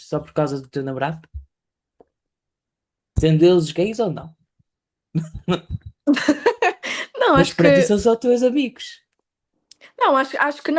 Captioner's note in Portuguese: risadas